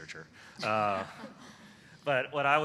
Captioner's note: laughter